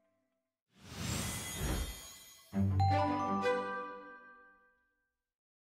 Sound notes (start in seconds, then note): 1.2 bells chime